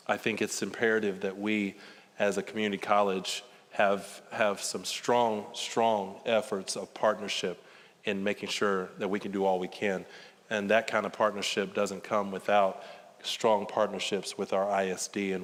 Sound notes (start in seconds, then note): none